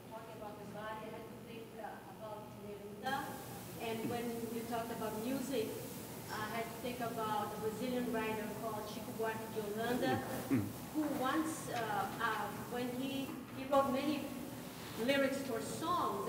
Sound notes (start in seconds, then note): 8.9 speaking in a foreign language